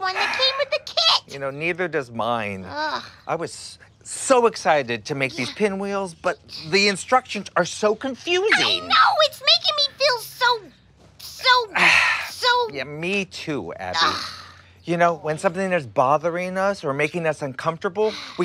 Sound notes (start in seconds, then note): 2.5 groans; 13.8 groans